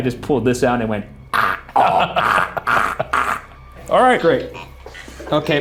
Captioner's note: Shane laughs